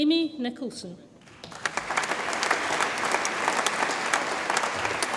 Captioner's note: audience applauds